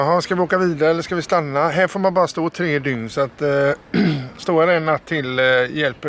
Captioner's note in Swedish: harklar sig